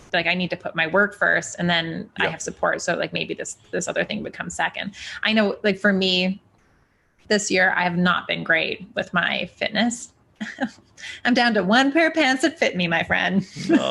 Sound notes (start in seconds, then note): 10.4 chuckles